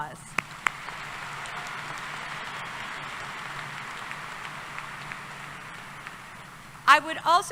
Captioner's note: applause